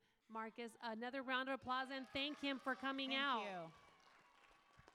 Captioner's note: applause